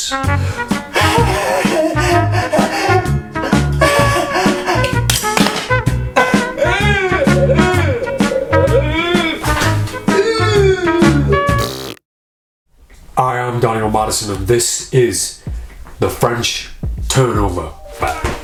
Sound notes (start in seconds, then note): 0.2 upbeat music; 0.4 gasping; 6.2 crying; 11.8 blowing raspberry; 18.2 yelling